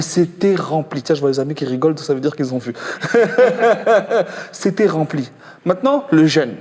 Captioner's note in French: rires